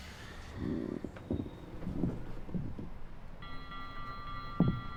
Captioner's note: floor creaking; ominous music